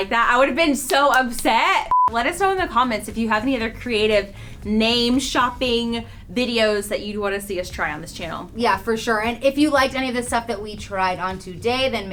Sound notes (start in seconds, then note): 1.9 beep